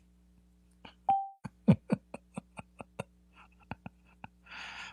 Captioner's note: Ketawa